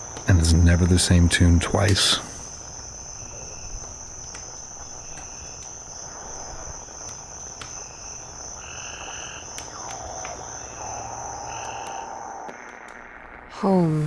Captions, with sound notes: and is never the same tune twice. (cicadas chirping)